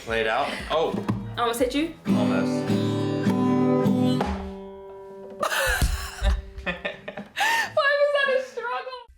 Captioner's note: both laughing